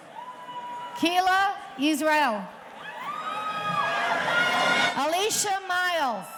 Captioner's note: audience cheering; audience cheering